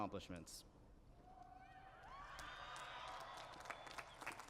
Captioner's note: cheering